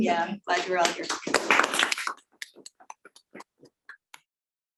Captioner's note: crowd applauding